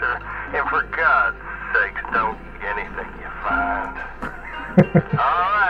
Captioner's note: laugh